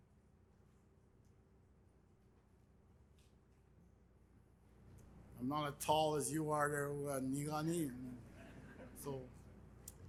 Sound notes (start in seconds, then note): 6.9 speaks Indigenous language; 8.4 audience laughing